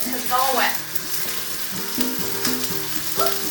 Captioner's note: chicken crackling in pan